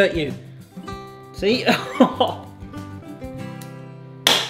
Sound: chuckles

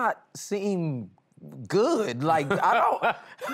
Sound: laughing

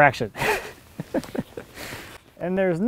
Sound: laughs

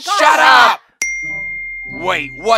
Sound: ding

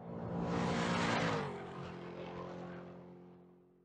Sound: car engine racing

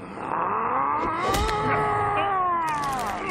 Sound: growling

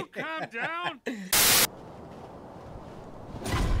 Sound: laughs; static

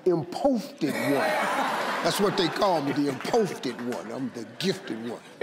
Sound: in foreign language; in foreign language

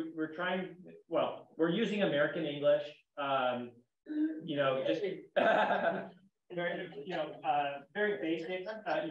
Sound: laughs

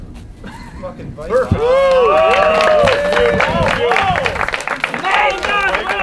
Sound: cheering

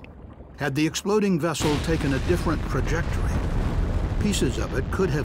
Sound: sound of explosion

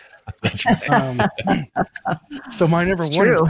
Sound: laughter

